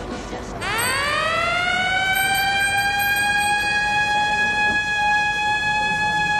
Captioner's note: siren sounds